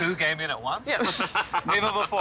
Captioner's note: laughing